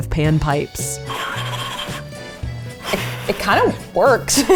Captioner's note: air blows